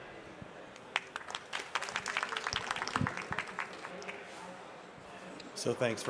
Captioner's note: applause